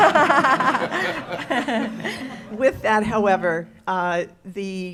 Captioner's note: laughing